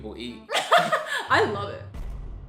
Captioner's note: laughs